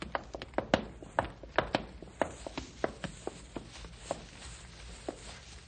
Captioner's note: footsteps